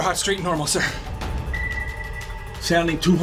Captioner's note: radar bleeps